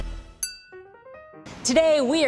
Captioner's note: ting